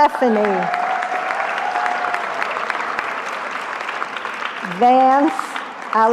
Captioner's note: cheering